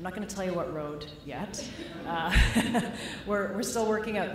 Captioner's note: laughter